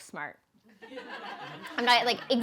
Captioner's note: laughing